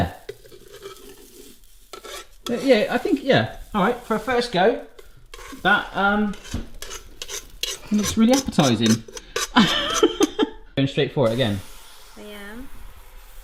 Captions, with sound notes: - Oh yeah Yeah, I think yeah, all right. For a first go, that looks really appetising. (laughs) went straight for it again. - Yeah